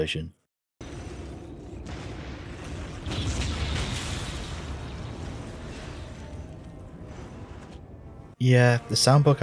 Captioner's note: occasional explosion and some fighting